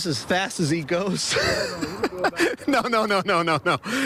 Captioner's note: laughter